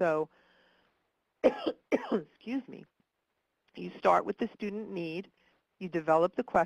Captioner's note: coughs